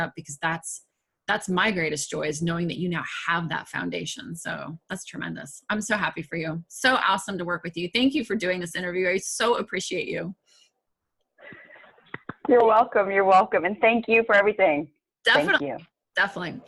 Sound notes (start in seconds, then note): 12.1 claps